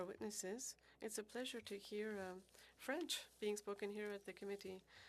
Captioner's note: speaking French